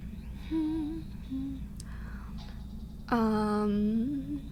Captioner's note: humming